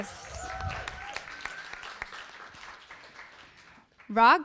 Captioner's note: audience applauding